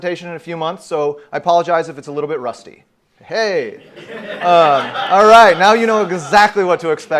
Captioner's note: hysterical laughter